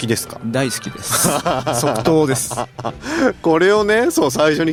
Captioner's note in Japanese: 笑い